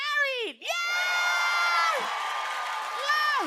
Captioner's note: cheers and applause